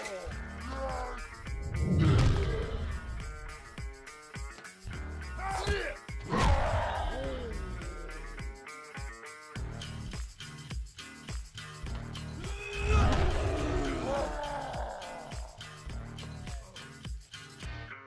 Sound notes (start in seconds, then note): 6.2 grunting; 12.4 groaning